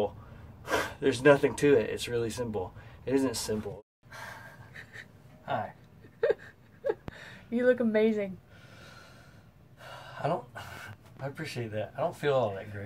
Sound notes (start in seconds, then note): 6.0 laughing